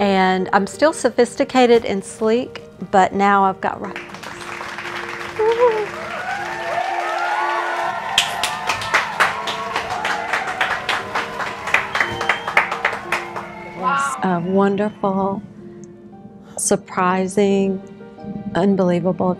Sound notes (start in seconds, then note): 4.8 audience applauds; 7.0 audience cheering